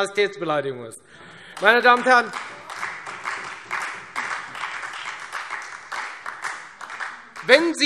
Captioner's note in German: Beifall Freie Demokraten – Vereinzelter Beifall SPD und DIE LINKE